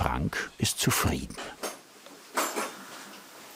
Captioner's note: strumming of tools